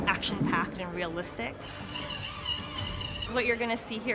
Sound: wire zips

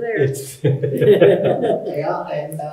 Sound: audience member chuckling

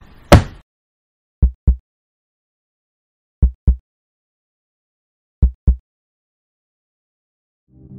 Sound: heartbeat

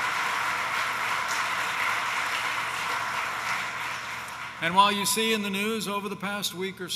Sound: applause

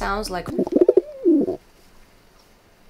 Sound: Toby Cooing

